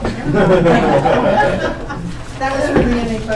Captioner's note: laughter